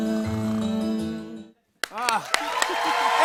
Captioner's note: cheers and applause